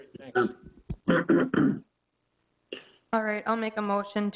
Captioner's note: clears throat